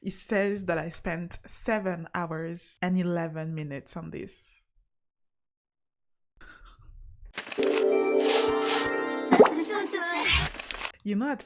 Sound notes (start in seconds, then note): 4.9 loud silence